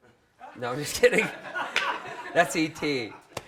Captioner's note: crowd laughs